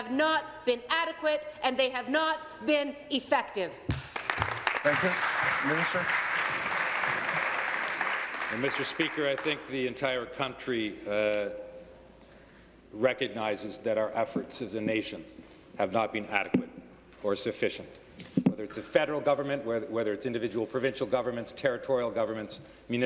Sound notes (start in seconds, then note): 7.1 applause